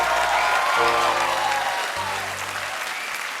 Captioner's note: applause; cheers and applause